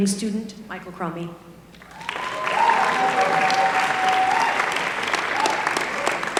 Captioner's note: applause